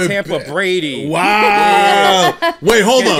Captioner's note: laughing